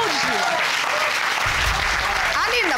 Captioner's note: audience applauding and cheering